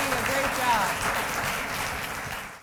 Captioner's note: applause